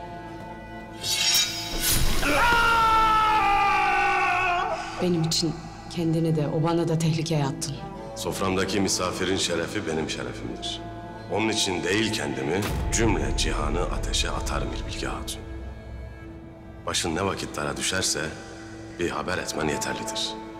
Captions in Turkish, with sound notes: (Kılıç sesi) (Bağırma sesi) Benim için kendini de obanı da tehlikeye attın. Soframdaki misafirin şerefi, benim şerefimdir. Onun için değil kendimi, cümle cihanı ateşe atarım İlbilge Hatun. Başın ne vakit dara düşerse, bir haber etmen yeterlidir.